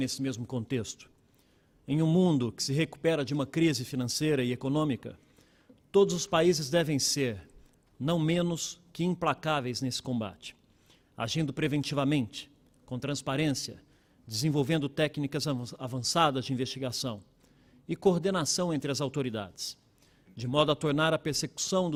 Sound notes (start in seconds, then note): 0.2 speaking Portugese